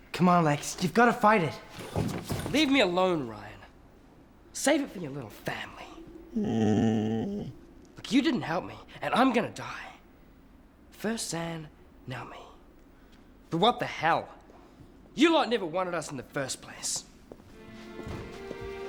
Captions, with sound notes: - Come on, Lex, you've gotta fight it. - Leave me alone, Ryan. Save it for your little family. (dog groans) Look, you didn't help me and I'm gonna die. First Zan, now me. But what the hell. You lot never wanted us in the first place.